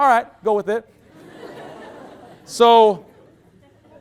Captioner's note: loud laughter